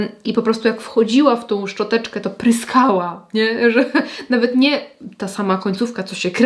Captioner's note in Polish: śmiech